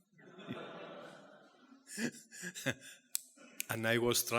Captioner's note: audience laughing